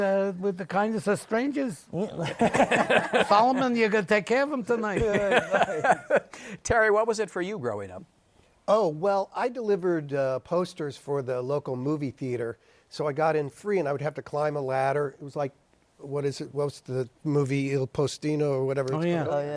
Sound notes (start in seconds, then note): 2.2 laughter